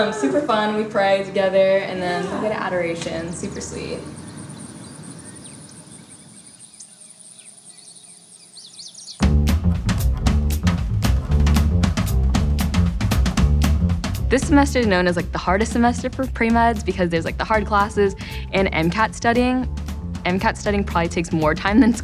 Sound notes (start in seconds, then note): 4.5 birds chirp; 9.4 upbeat music